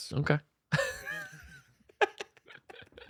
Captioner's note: laughter